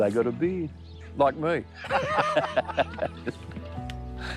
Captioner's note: both laugh